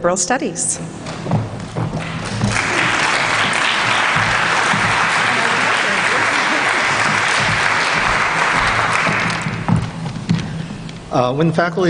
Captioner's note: applause